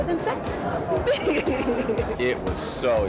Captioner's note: laughs